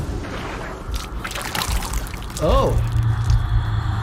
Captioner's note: vomit sloshes